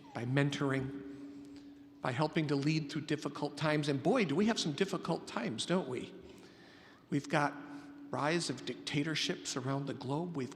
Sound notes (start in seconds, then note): none